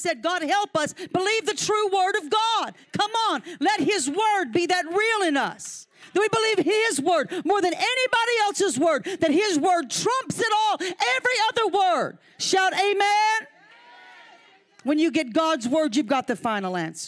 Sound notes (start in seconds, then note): 13.6 audience cheering